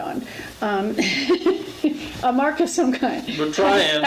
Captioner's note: laughs